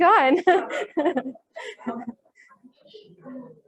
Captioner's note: laughter